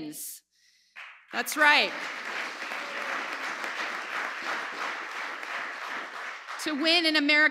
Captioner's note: applause